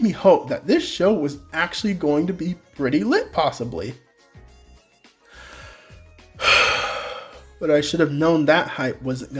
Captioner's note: sigh